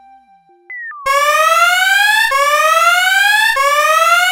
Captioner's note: offhand electronic music; alarm blares